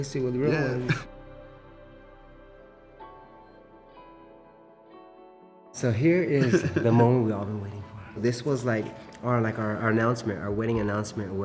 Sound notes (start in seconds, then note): 0.8 chuckles; 2.9 soft bright music; 6.4 chuckling